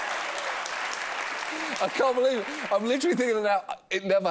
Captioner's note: applause